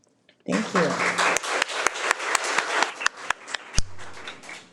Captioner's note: audience clapping